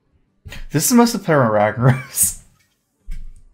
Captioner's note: laughs